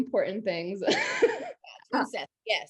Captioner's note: laughs